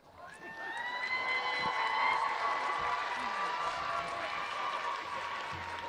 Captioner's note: audience cheering